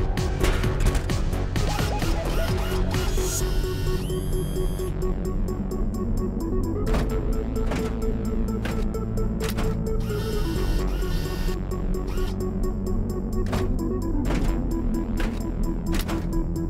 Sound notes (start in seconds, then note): 7.6 footsteps clanging; 11.7 suspenseful synth music